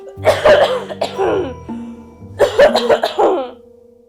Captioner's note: woman coughs